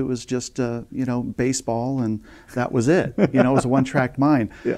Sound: laughing

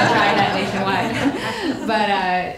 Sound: laughter drowns out speaker; audience laughing

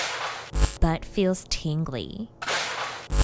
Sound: pans banging; static crackling; pans banging

